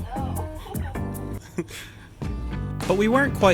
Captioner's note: giggling